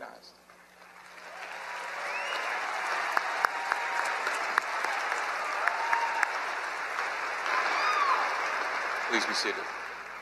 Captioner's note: applause